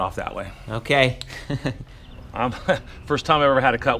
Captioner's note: laughs